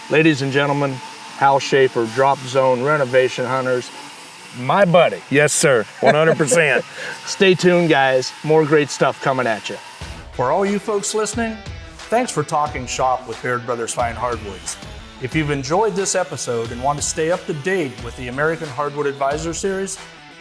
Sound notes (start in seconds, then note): 5.6 laughing; 13.8 tool grinding